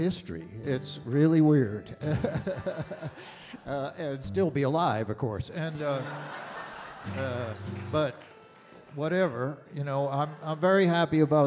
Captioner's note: audience Laughter